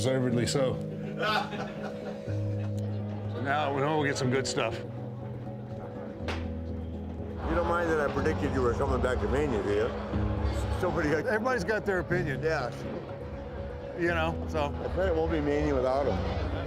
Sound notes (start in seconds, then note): 1.1 Kurt laughs